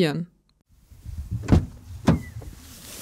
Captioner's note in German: Autotür wird geöffnet